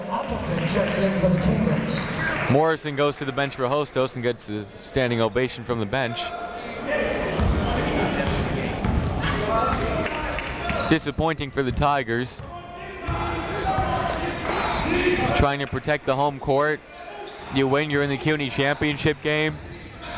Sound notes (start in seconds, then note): 7.1 chatter; 12.8 chatter